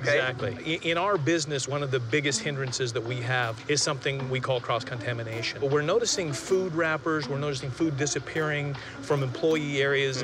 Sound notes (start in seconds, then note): none